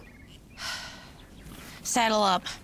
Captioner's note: Jenny sighs